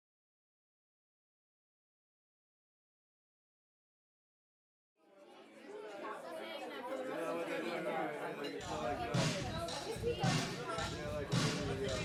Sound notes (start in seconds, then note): 5.0 customer chattering; 8.6 upbeat music